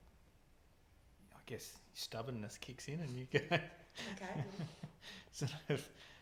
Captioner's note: laughing